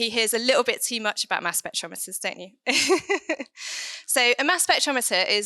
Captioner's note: chuckling